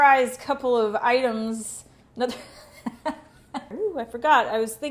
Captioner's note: laughs